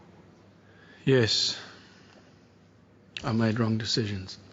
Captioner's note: sighs